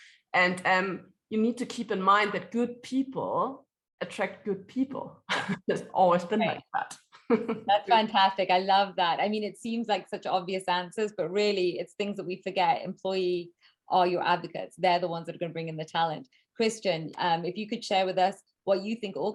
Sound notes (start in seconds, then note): 4.9 laughs